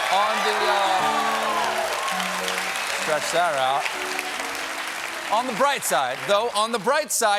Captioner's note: cheers and applause; piano riff